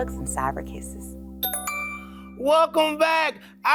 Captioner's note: audio chiming